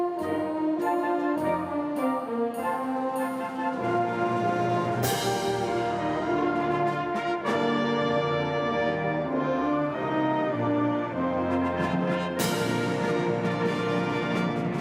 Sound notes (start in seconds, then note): none